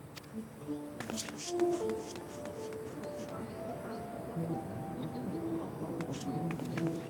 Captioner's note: footsteps